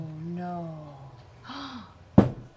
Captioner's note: gasps